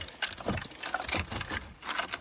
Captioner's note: metal crunching